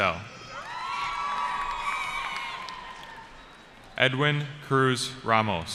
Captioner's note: cheering